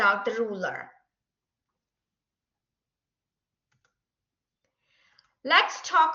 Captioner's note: silence